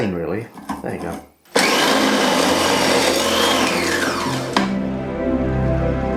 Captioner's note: loud grating noise